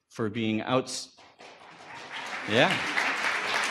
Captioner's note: audience applause